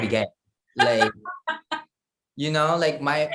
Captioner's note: laugh